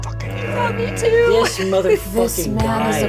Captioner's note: chuckles